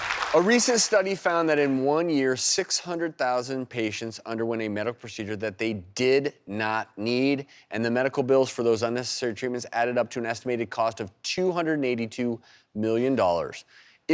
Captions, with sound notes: (applause) A recent study found that in one year, 600,000 patients underwent a medical procedure that they did not need, and the medical bills for those unnecessary treatments added up to an estimated cost of $282 million.